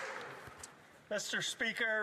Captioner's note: some Applause